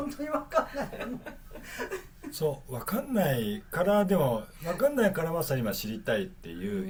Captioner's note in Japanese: 笑い